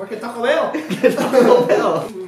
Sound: both laughing

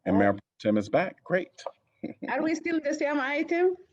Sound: laughter

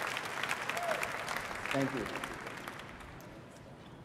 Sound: applause

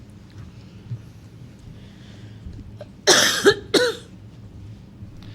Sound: audience member coughs

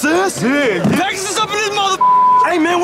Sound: beep

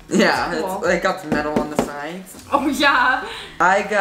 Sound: knocking

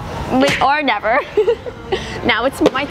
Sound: laughs

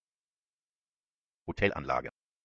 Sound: fast Pronunciation

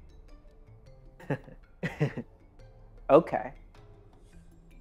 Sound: chuckles

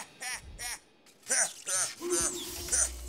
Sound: robotic laughing

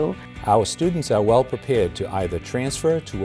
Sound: voiceover

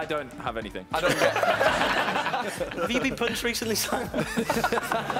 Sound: laughing drowns out speaking

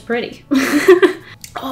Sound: laughs

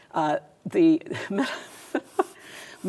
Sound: laughs

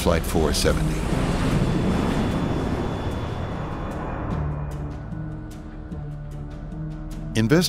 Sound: plane engine running

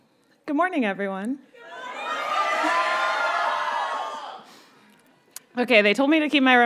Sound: audience cheers and shouts

